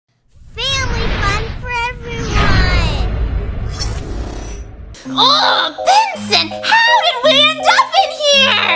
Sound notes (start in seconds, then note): 3.2 air Whooshing